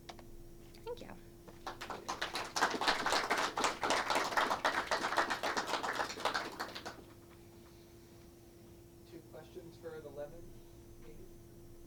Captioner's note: clapping